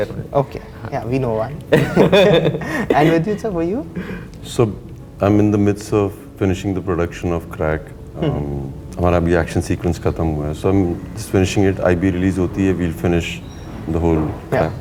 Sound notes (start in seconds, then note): 1.6 laughs